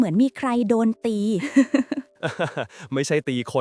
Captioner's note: laughs; chuckles